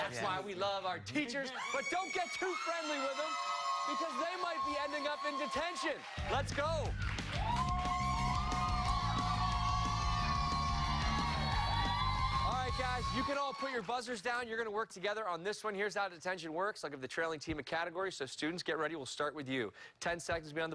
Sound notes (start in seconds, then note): 10.2 cheers and applause